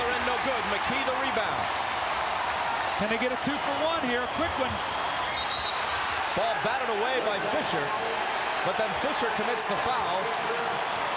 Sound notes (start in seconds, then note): 5.2 whistle blows